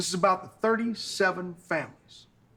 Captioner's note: none